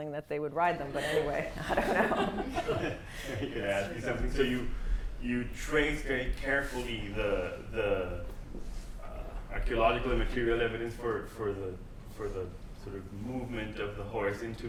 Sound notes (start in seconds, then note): 1.2 laughter